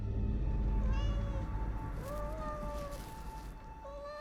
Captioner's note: cat mews